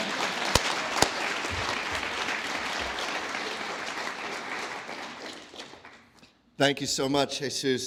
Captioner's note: applause